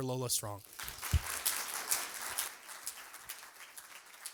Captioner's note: applause